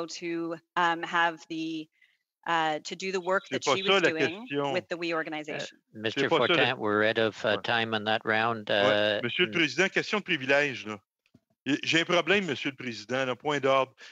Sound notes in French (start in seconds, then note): 2.7 voix de l'interprète